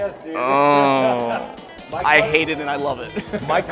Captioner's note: laughs